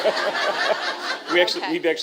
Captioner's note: laughter